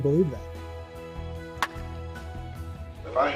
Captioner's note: bat clinks against ball